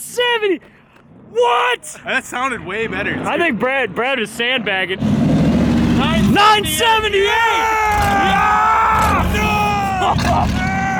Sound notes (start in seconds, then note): 5.0 engine revs up